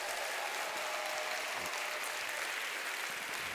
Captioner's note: applause